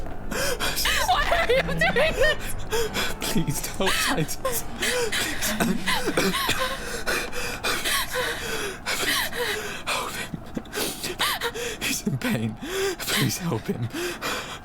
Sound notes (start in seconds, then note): 6.4 coughing